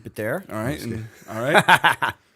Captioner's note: laughter